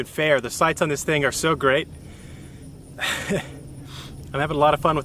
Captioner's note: laughs